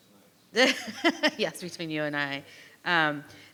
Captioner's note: laughs